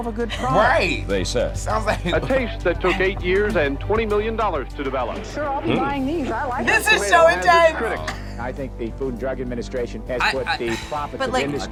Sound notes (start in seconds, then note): 1.6 laughs